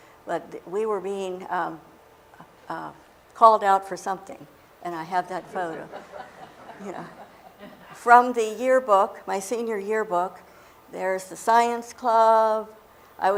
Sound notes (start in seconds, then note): 5.4 laughter